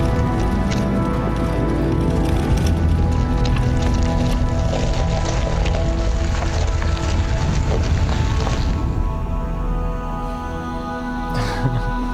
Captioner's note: laughing